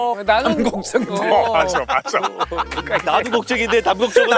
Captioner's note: theater Department students agreeing passionately